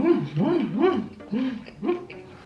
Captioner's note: breathe